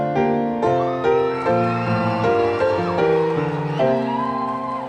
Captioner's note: audience cheering